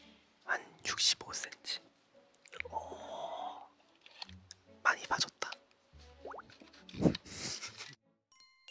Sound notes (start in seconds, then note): 7.2 giggles